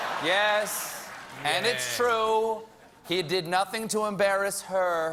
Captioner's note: applause; laughter